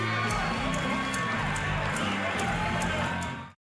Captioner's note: crowd chatter